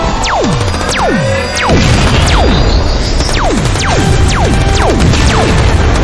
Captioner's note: lasers blasting; explosions booming